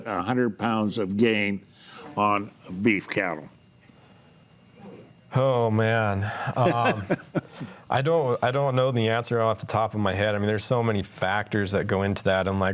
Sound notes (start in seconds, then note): 6.3 laughs